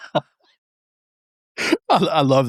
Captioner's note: laughing